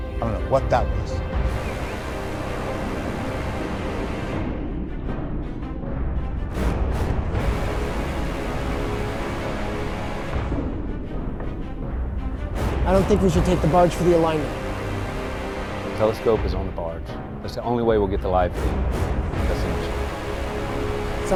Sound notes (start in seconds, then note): 1.5 space station whooshing; 1.5 suspenseful music